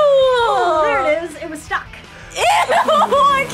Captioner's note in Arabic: يبصق